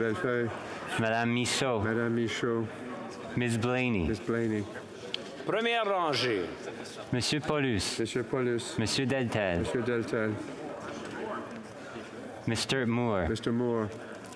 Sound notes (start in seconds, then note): 0.8 speaking French